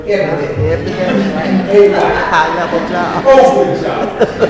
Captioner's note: audience laughs